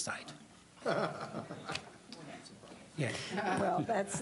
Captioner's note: laughter